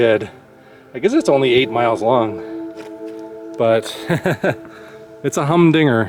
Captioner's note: laughs